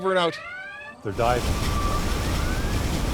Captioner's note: alarm wails